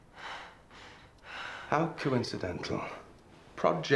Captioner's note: breathes heavily